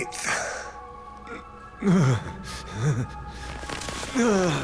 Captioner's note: groans